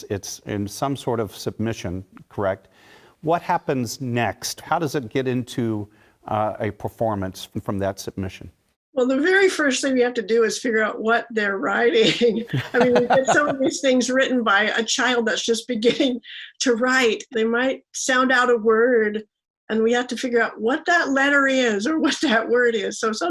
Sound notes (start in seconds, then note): 12.4 laugh